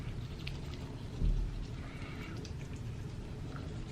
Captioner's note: teeth scrubbing